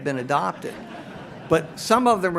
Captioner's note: audience laughs